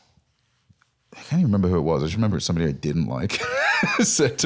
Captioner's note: laughs